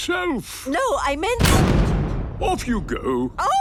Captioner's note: blasts off